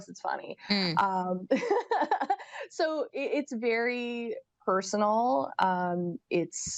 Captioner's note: laughs